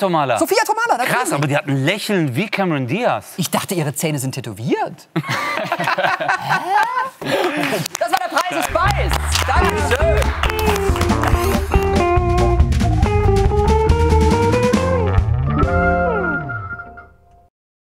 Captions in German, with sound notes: -Aber die hat ein Lächeln wie Cameron Diaz. Ich dachte ihre Zähne sind tätowiert! [lachen] Das war "Der Preis ist Beiss"!